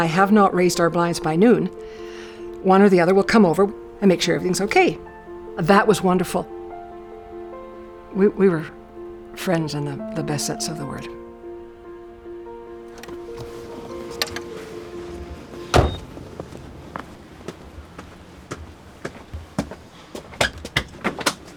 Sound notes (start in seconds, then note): 16.0 vehicle beeps